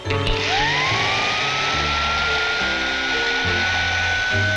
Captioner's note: vacuum running